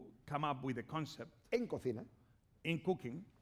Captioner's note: speaking spanish